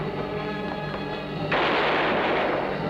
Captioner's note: gun firing; gun clicking